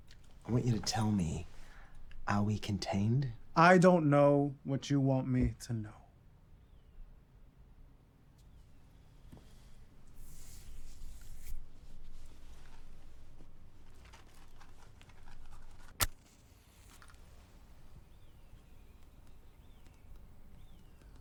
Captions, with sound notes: I want you to tell me, are we contained? I don't know what you want me to know. [matches rattle] [match strikes]